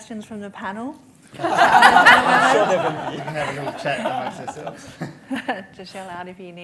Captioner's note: laughter